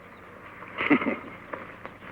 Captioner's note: chuckles